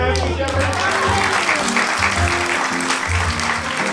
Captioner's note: audience applauds